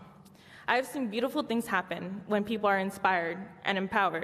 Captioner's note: none